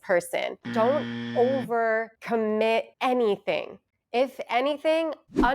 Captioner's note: buzzer ringing